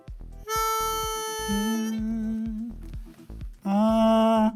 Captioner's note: humming